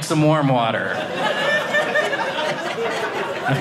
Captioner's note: audience laughing